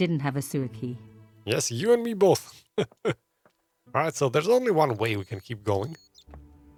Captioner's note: laughs